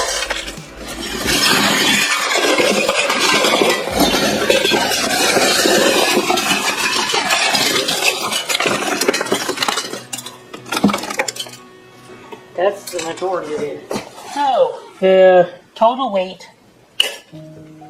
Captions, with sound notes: (Sound of scrap silver being dropped into another box.) That's the majority of it. So, the total weight...